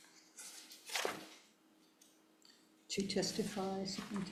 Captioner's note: paper rustling